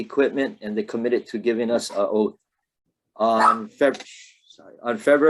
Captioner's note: dog barking